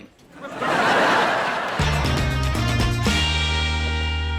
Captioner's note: audience laughs